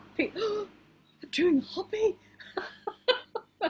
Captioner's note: gasps loudly